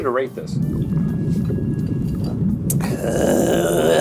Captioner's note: water bubbling; grunting